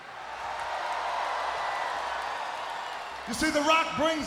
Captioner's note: crowd cheering